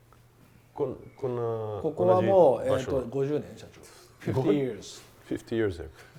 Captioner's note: men speaking in Japanese